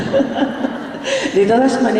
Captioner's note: laughter